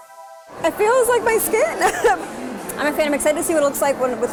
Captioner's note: laughs